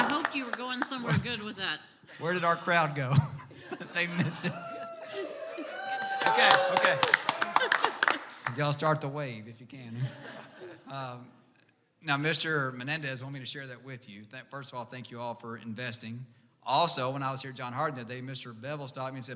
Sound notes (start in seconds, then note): 2.2 chuckles; 2.2 audience laughs; 5.4 audience cheers; 7.4 audience applauds; 10.0 audience laughs